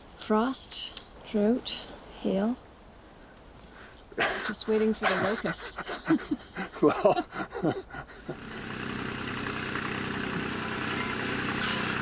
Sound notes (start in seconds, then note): 8.4 machinery whirring